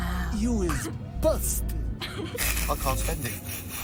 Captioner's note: snickering